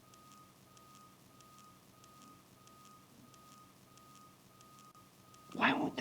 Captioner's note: low beeping